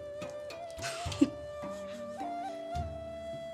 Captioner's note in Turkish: Gülme sesi